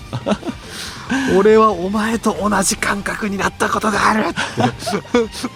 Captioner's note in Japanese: 笑い